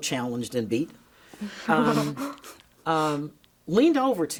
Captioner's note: chuckling